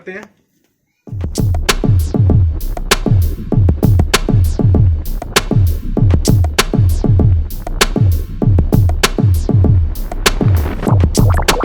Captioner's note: sound effect